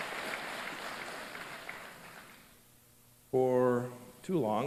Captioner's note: applause